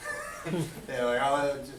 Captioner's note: laughs